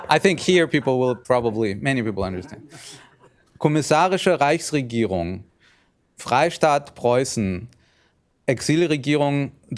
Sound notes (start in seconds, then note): 3.6 speaking german